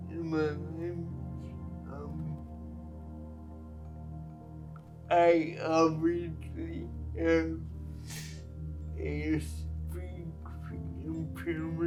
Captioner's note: laughs